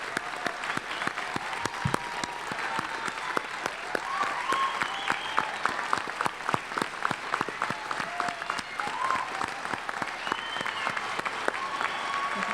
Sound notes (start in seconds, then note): 6.0 cheers and applause